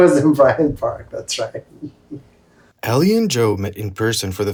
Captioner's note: chuckles